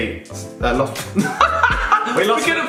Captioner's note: laughs